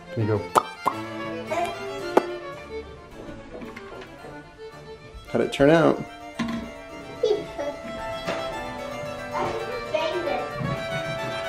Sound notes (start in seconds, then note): 2.1 smacking; 2.1 smacks